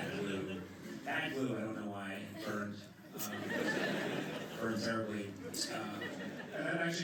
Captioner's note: laughter